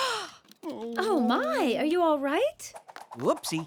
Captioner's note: groans